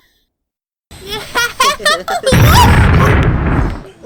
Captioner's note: giggling